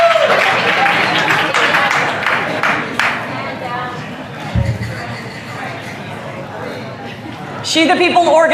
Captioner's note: applause